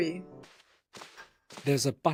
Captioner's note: clock ticking